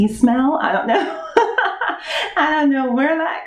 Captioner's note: laughing